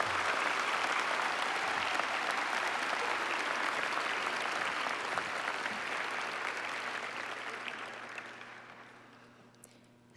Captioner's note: applause